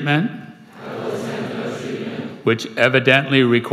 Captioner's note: crowd